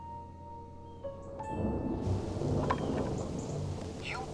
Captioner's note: thunder rumbling